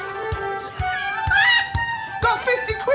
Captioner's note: laughter; screams